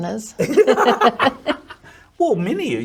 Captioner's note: both laugh